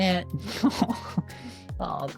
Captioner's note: laughs